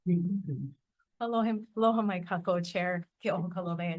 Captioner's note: speaking in Hawaiian